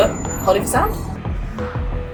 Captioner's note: high pitched whirr